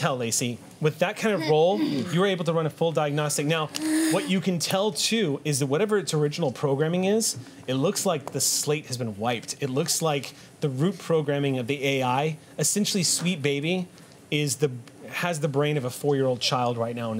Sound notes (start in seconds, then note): none